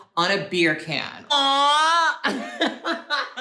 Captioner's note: laughs